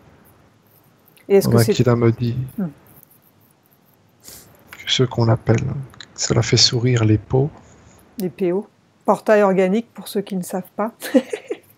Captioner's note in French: rires